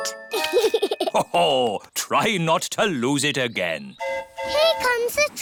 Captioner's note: giggles; train horn hooting